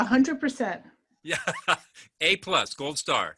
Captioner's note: laughing